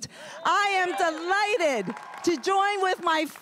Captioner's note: everyone cheering and applauding